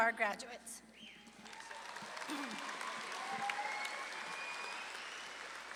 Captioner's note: audience claps and cheers